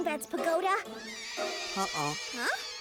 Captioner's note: screeching bats